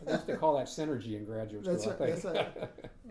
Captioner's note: laughing